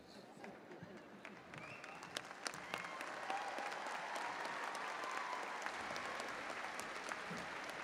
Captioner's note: audience cheering; audience applauding